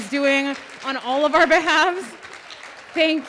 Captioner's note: audience applauding